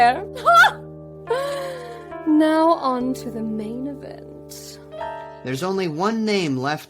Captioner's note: laughs